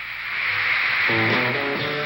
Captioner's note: screaming